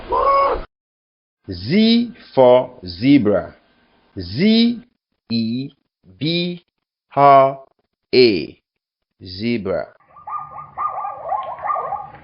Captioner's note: sound: Barks